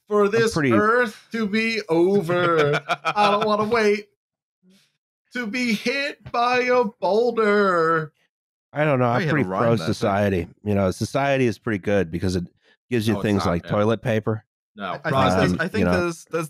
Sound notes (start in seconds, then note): 2.2 laughs